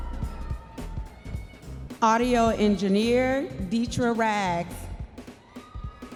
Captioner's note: audience members cheering